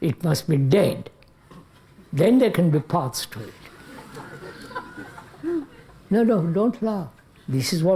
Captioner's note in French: Rires